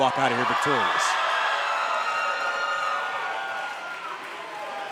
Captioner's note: crowd screams